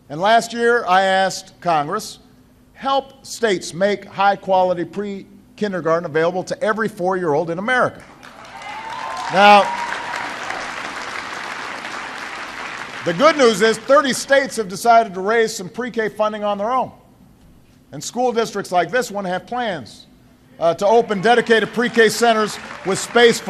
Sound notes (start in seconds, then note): 8.0 applause